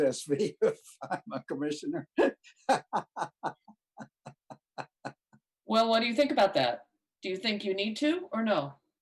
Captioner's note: laughter